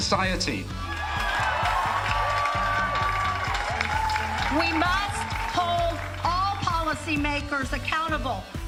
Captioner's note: cheering